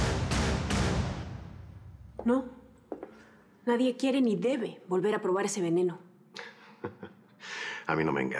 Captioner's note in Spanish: risas